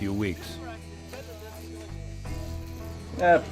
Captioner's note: buzz of electric shaver